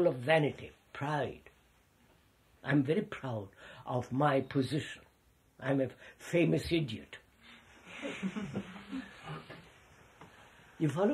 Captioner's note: laughter